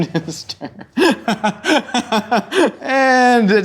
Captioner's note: laughing